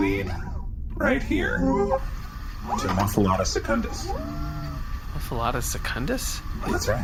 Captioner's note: beeping